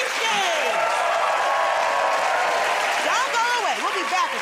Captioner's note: cheers and applause